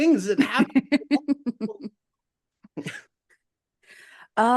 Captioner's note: laughing